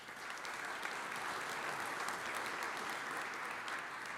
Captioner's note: audience applauds